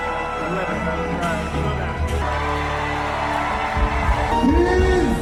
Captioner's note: crowd cheering and music playing